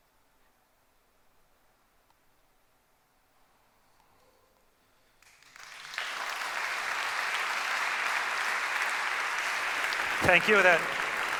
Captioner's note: applause